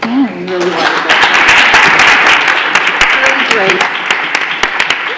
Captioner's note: applauding